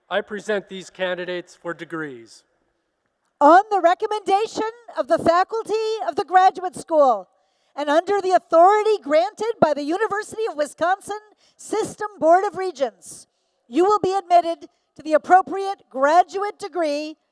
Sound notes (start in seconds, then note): none